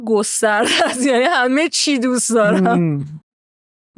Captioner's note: laughs